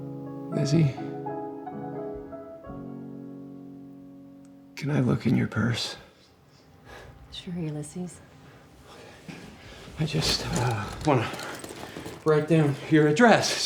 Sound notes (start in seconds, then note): none